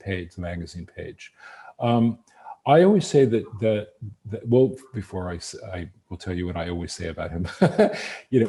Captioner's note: laughs